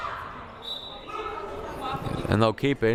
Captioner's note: whistle blaring